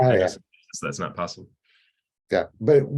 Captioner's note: audio cuts out